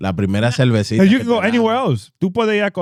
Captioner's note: speaking In Foreign Language